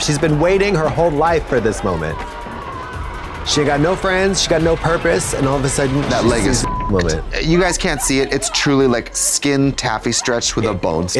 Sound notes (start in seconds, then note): 6.6 beep